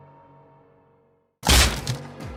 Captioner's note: zombie_door_break.ogg